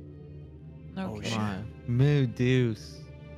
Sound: in Portuguese

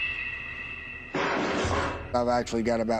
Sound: bang

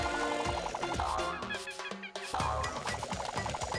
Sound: monkey cries

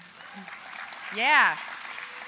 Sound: applause

